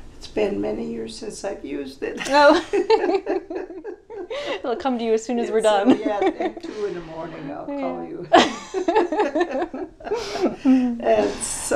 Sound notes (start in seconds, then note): 2.2 laughs